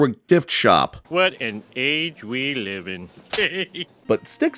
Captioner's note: laughs